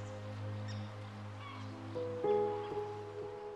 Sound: seagull squawking; soft music continues

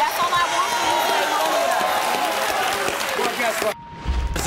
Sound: audience claps

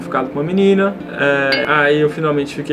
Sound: ding!

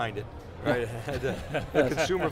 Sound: laughs

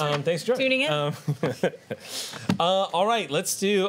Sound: laughter

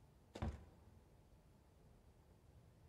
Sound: door closes

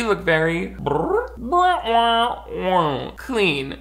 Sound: mimics foley effects

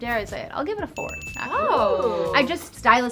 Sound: bell dinging

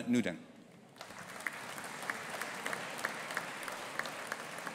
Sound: audience applauding

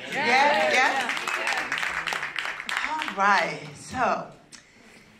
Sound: applause

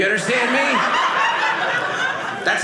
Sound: audience laughing

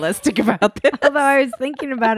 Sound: laughing

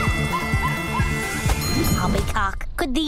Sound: music playing, screaming; dinging

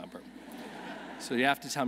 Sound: audience laughing

